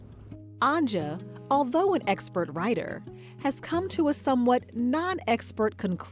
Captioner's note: none